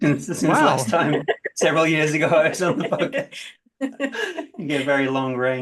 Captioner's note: laughs; laughter